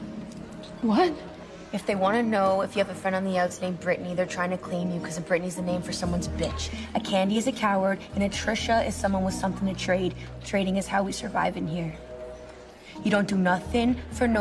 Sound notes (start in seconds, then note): none